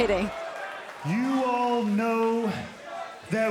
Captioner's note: crowd cheering